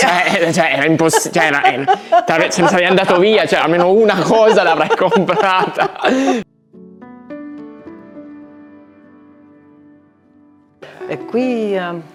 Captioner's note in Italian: risate